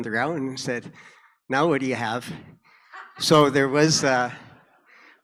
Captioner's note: audience laughter